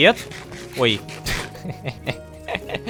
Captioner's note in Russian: Кх! Кхе-хе-хе